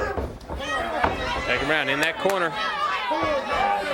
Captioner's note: crowd chatter